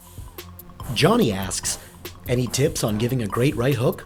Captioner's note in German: Voice-over